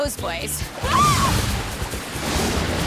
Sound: all scream

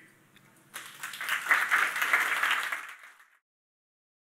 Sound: audience clapping

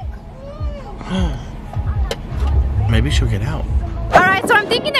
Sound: gasping

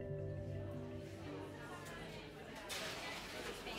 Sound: hum of conversations

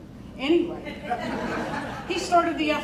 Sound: crowd laughing

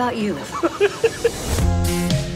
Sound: chuckles

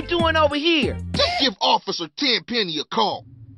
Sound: Ryder throws another sarcasm

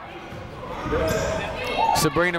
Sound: people shouting in the crowd

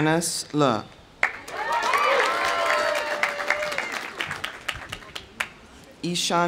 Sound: audience applauding; audience cheering

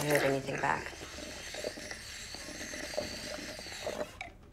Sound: slurping soda

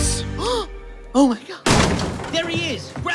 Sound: gasp

